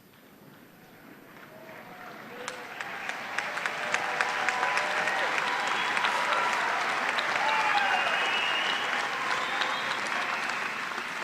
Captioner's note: cheers and applause